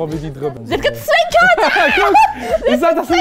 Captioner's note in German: Lachen